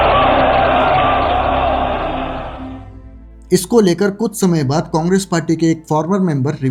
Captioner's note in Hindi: चीखने की आवाज़